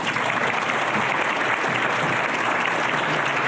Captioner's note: applause